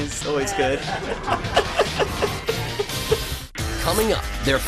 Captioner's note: laughter